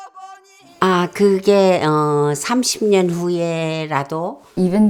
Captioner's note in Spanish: Hablando en coreano